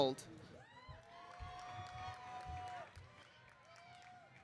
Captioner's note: audience cheering